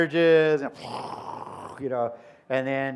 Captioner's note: mimics explosion